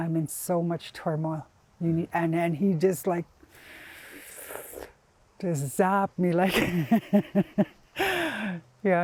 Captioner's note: laughs